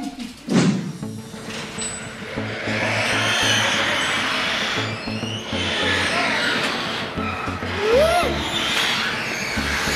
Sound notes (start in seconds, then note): 3.1 garage door